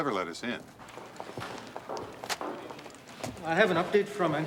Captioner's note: footstep